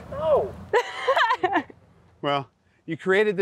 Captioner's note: laughs